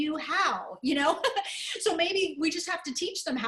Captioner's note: laughter